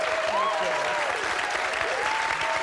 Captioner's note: audience cheering; audience clapping and cheering